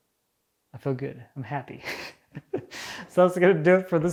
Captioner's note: chuckling